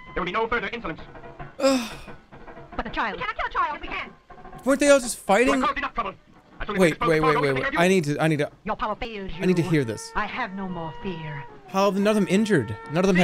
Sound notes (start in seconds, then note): 1.6 sighs